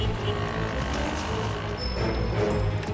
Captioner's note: bicycle bell rings